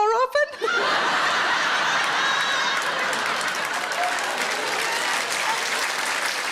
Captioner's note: audience laughing; audience clapping